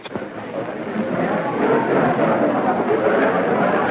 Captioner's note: chattering